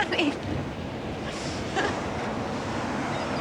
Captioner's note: laughs